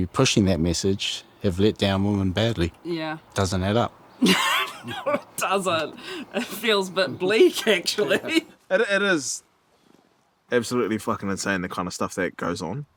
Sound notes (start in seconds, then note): 4.2 laughs